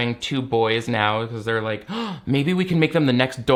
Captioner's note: gasps